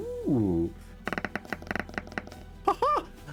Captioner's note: tapping